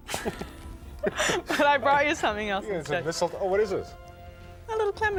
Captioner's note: both laugh